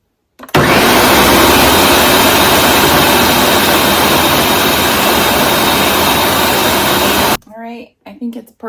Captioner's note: blending up basil leaves again